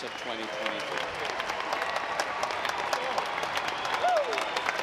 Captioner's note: audience applauds